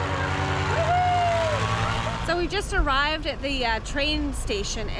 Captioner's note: cheering